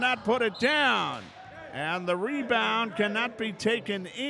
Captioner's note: whistle blows